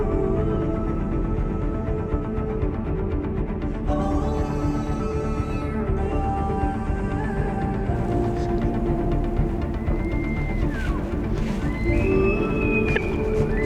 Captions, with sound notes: He’s a good bull. (Elk bugling) Bugle!